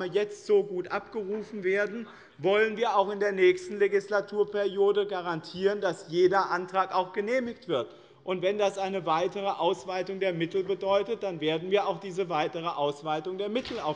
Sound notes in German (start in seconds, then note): none